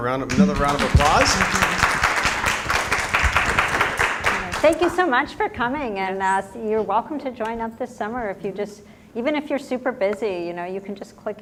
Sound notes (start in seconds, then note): 2.2 applause